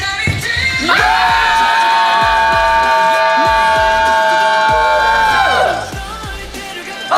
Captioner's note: scream for 5 seconds